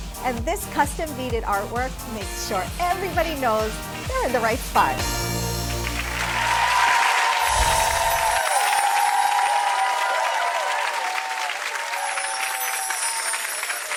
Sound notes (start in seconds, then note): 5.9 applause